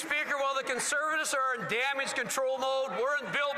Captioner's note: some Applause